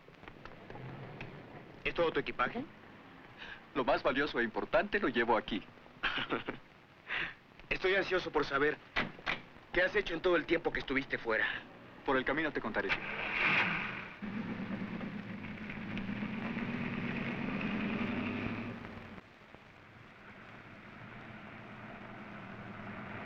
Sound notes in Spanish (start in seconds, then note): 6.0 ríe; 12.9 enciende motor; 12.9 motor de carro